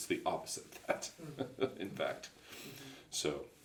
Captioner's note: laughs